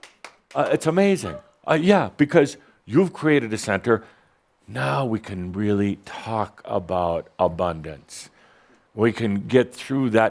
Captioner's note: gasps